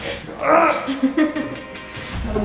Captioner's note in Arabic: يضحك; همهمتس